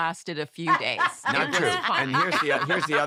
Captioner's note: laughter